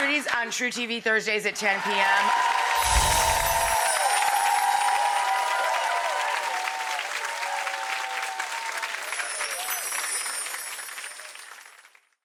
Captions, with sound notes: on TruTV, Thursdays at 10:00 PM. (audience applause)